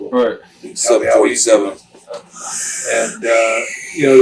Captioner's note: imitates wind gusting